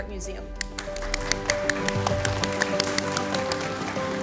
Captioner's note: audience applauds